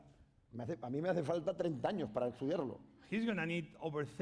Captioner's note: speaking spanish